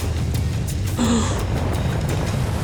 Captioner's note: gasping